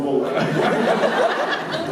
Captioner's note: Jensen laughs